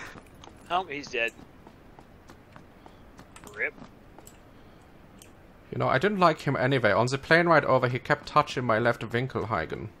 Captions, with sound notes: (German accent) You know, I didn't like him anyvay. On ze plane ride over, he kept touching my left vinkelheiden.